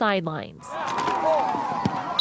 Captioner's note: whistle blows